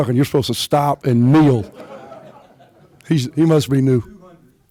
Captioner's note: laughter